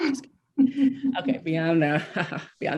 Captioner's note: chuckles; laughs